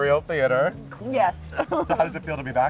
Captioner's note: laughs